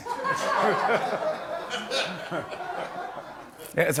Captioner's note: laughter